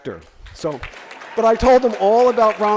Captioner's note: audience applause